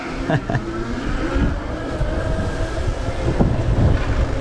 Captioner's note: engine roaring